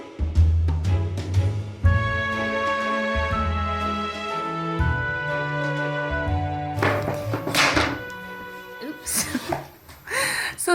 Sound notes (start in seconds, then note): 7.2 loud bang; 9.1 laughs